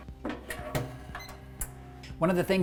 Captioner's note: toaster beeping